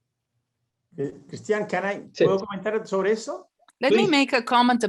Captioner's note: speaking in foreign language